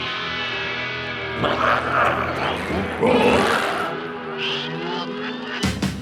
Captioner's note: energetic music; glowzies growling